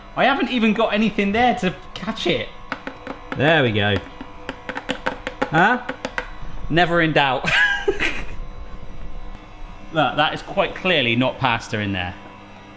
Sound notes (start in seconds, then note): 7.5 laughs